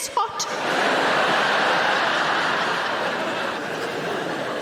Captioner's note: audience laughing